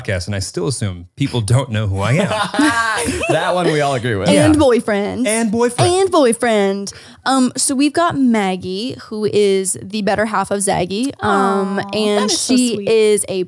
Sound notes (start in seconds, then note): 2.0 all laughing